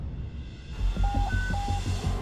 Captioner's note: radio chirps